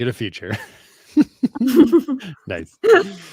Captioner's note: laughter